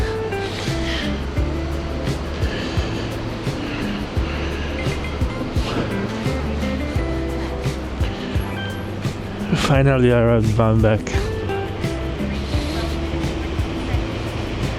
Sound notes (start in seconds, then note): 4.4 beeping